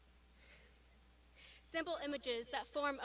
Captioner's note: laughs